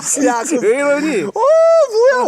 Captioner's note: both scared